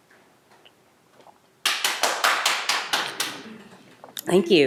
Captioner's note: one person clapping